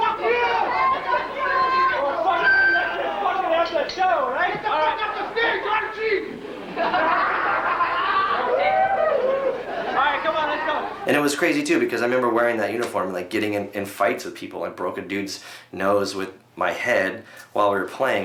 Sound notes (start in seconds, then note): 7.4 people laughing